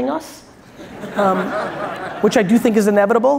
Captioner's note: audience laughs